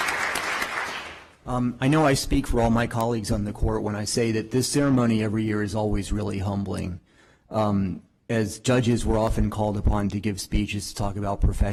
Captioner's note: applause